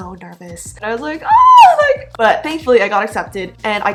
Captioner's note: squeal